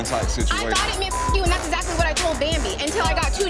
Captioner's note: beep